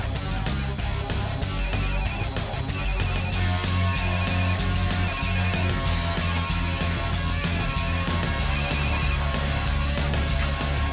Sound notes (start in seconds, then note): 1.9 phone ringing